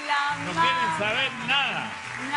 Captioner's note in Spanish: aplausos